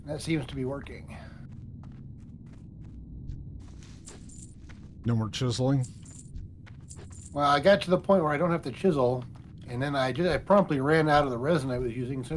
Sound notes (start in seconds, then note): none